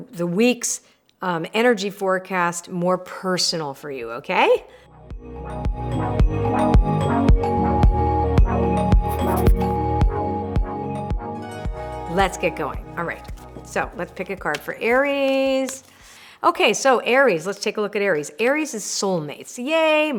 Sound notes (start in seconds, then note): 5.3 upbeat cheerful music; 9.0 pen scratching